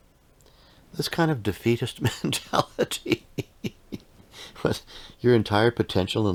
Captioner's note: laughing